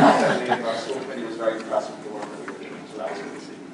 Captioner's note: laughter